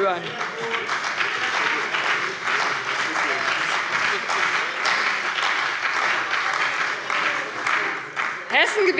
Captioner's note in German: Beifall bei dem BÜNDNIS 90/DIE GRÜNEN und der CDU